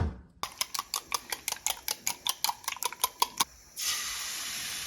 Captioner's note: sizzling frying pan sounds